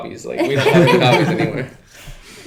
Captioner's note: laughing